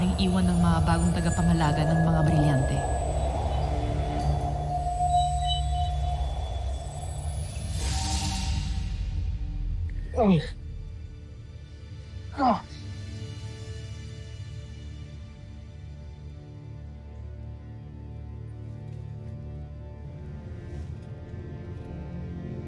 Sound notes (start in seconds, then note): 3.3 rousing music playing; 4.4 celestial chimes, ethereal whoosh; 10.1 adamus groans; 10.9 mystical music playing; 12.4 grunts